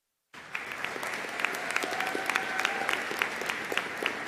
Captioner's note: audience applauding